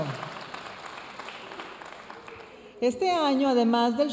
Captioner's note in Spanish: aplausos de la audiencia